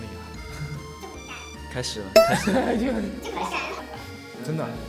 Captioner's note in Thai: ขำ